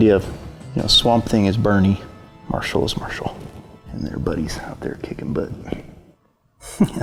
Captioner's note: laughs